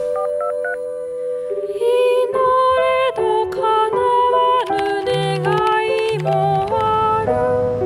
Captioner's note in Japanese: 電話の呼び出し音